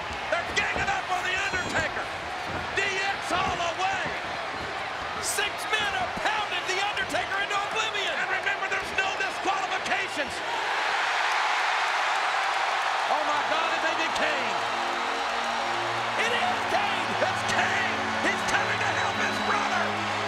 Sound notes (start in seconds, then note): 12.0 applause